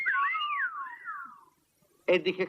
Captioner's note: all whistle